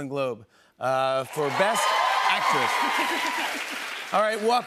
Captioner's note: cheers and applause